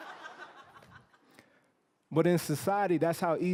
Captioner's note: laughter